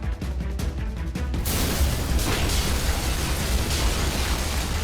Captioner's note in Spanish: Estruendo